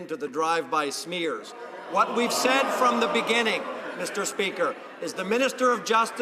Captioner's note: some Applause